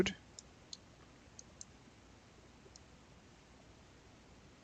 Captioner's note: mouse clicking